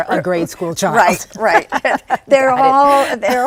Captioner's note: laughs